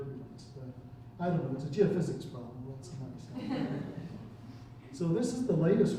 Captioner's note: chuckling